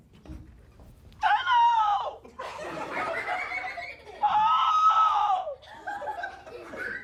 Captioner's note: laughter